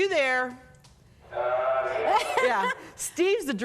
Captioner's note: man yells